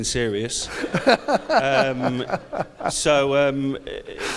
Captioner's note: audience laughs; laughs